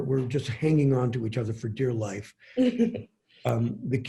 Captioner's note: laughing